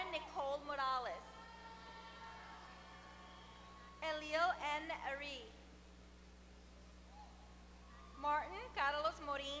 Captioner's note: applause